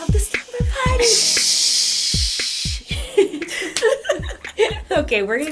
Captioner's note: laughter